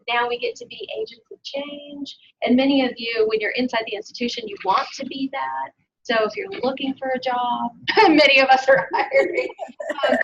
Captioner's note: laughter